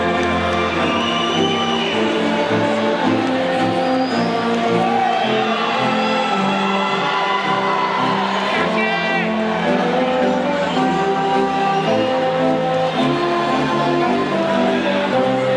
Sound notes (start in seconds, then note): 1.0 audience whistling; 1.0 students softly chattering; 8.7 band music drowns out audience